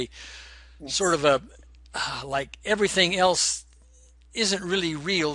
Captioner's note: exhaling